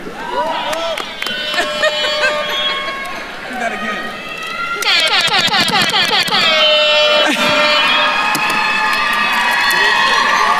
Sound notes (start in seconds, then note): 1.3 horn blowing; 1.4 faculty member laughs; 4.9 horn blowing; 7.5 attendees cheering